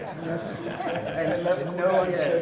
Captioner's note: people laugh